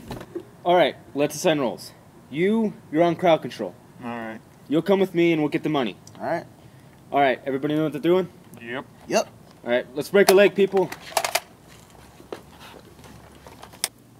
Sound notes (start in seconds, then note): none